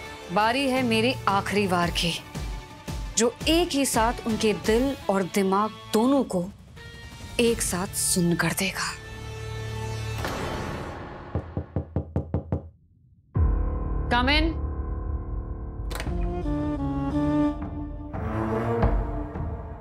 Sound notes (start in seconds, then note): 9.3 pensive music playing; 11.3 knocks on door